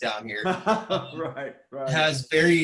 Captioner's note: laughs